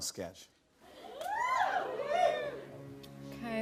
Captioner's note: audience whoops